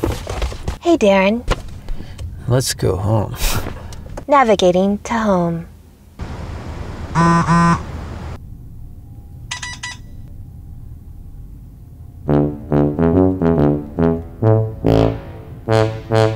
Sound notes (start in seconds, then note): 7.1 phone vibrating; 9.5 phone beeping; 12.3 defeated music